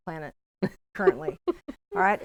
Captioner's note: laughing